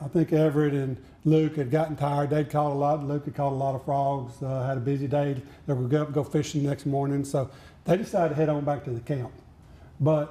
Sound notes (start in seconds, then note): none